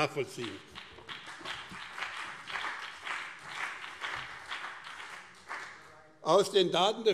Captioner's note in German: Beifall BÜNDNIS 90/DIE GRÜNEN und CDU